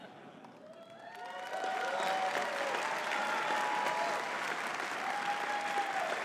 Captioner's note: audience cheering and clapping